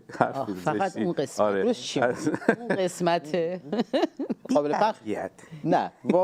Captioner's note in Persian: خنده